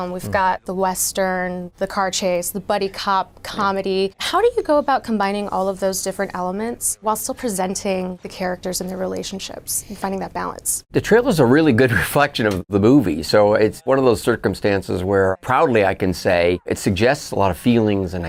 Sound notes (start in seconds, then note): none